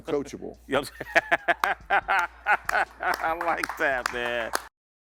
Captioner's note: laughs